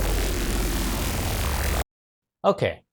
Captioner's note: loud explosion